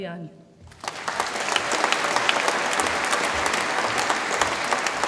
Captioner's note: audience applauds